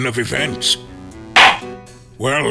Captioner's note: gavel slams!